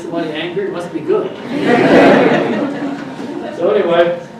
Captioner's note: audience laughs